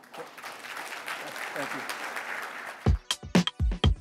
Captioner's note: applause